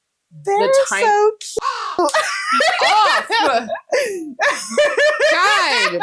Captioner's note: caw